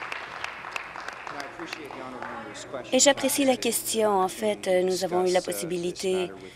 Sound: applause

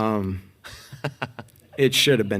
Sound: laughing

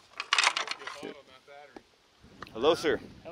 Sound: murmurs

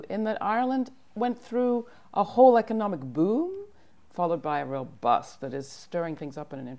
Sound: none

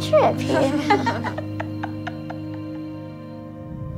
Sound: laughs

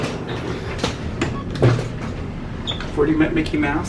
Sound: elevator beeps

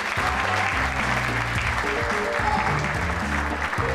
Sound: applause

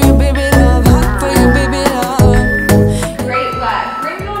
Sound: timer beeping

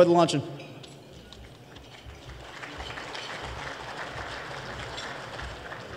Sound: applause

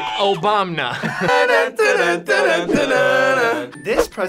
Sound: both humming

